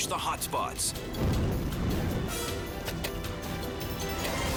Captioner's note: fire roaring